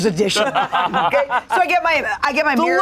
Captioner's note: everyone laughs